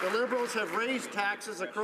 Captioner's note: some Applause